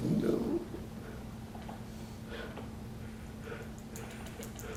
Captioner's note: gasping